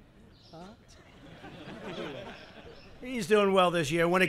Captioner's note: laughter